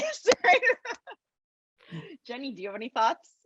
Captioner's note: laughs